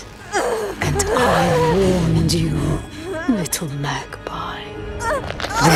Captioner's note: Neyrelle grunting